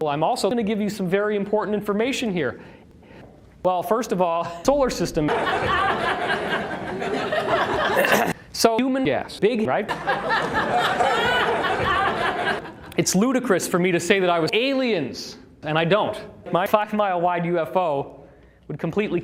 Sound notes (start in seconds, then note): 5.2 laughter; 9.8 laughter